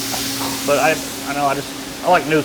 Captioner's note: laughing